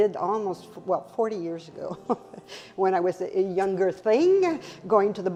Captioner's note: chuckles